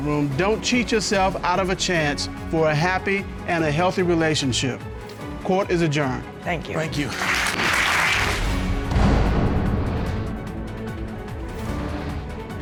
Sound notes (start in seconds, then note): 7.0 applause; 9.0 dramatic music playing